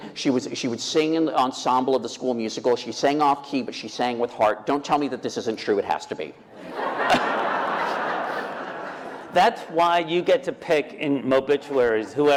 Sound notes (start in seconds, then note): 6.5 laughter